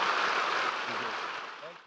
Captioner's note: applause